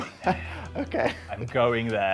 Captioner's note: laughing